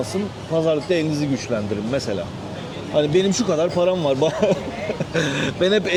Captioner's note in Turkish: kahkaha